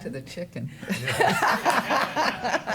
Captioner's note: laughter